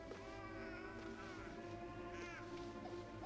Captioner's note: suspenseful music; baby crying